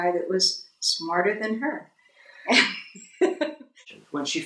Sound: laughter

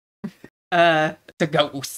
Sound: giggles

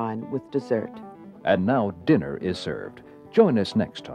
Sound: voiceover

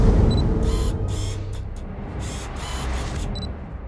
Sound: camera blipping; camera lens focusing

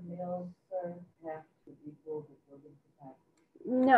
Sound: speaking faintly

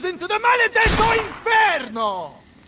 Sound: gunshot

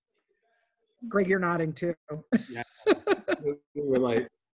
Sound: laughs

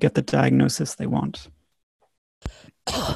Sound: coughing

